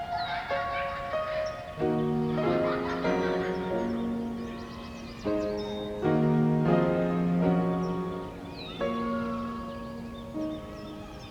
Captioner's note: children laughing